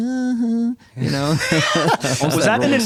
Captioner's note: laughter